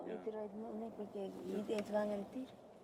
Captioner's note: speaking Spanish